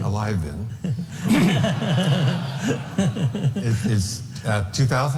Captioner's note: all laughing